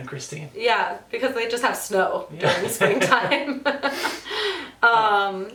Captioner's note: both laugh